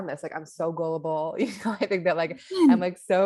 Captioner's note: laughs